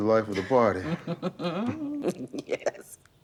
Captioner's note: Beverly chuckles